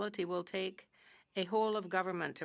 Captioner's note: speaking french